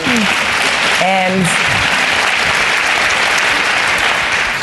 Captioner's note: applause